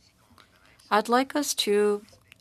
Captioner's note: speaking french